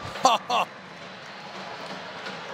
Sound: laughs

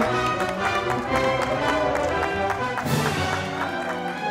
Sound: audience applauding

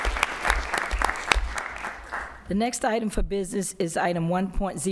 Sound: applause

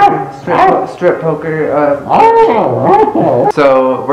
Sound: concerned barks

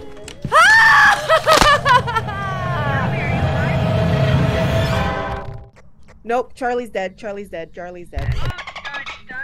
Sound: laugh

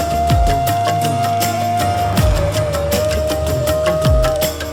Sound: clap

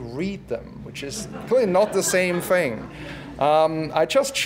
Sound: laugh

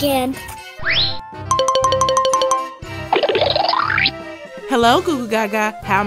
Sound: various cartoon sound effects

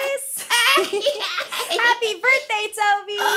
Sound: laughing

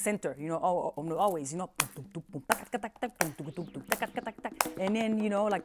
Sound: voicing drumming sounds

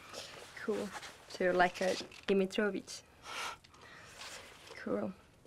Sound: speaking in a foreign language

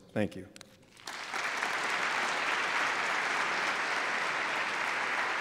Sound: applause

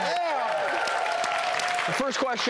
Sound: audience applauding

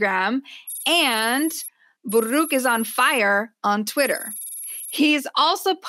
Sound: sci-fi computer typing sound; more typing

